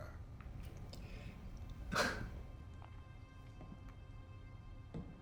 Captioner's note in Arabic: سخرية; خطى بطيئة تقترب من الباب